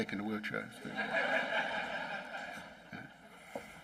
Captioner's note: laughing